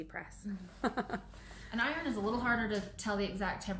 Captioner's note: laughs